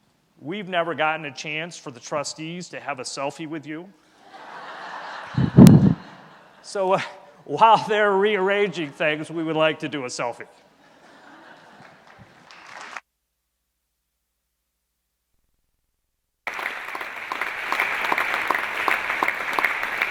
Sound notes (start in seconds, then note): 12.3 laughing